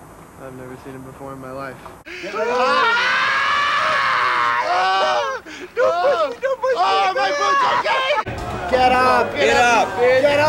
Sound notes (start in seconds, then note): 2.1 screaming; 5.8 high pitched voice